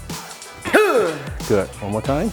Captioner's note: exhales